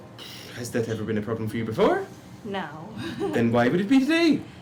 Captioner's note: laughs